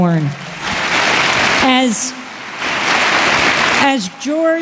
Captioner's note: applause